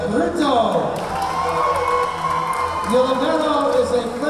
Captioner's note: clapping; cheering